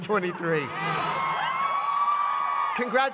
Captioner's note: cheers and applause